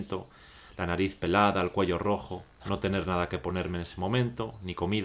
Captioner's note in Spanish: Voz en off